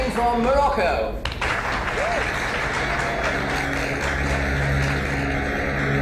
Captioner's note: crowd applauds; ominous orchestral music